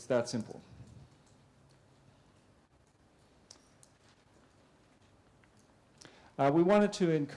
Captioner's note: pause